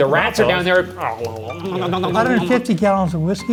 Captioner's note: gurgling sound